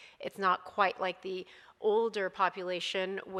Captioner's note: none